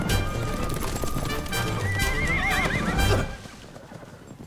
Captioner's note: whinnies